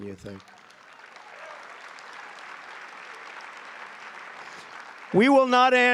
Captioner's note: applause